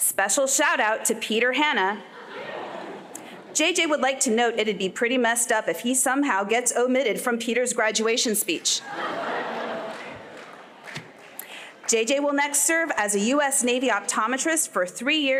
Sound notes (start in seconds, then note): 8.8 laughter